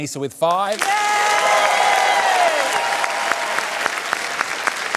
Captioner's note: cheering and applause